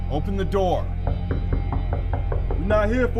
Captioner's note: knocking on the door